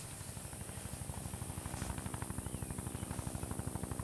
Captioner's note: Helicopter Approaching, Faint